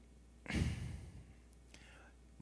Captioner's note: olivier sighs